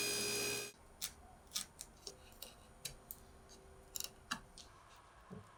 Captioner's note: chisel scraping